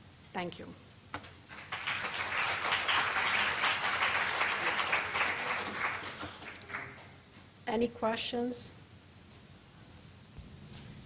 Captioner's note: clapping